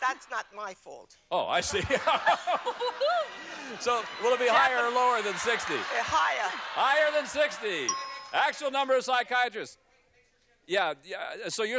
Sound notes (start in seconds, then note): 1.6 laughs